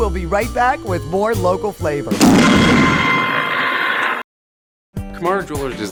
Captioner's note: scary loud sound